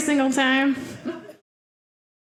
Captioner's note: audience laughing